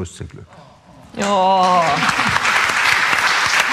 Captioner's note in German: Hingerissene Laute, Applaus